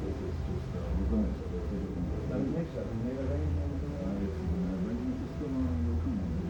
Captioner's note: men speaking in foreign language